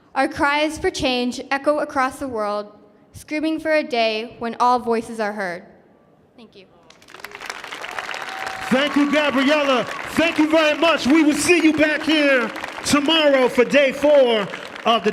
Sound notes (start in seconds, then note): 7.3 audience cheering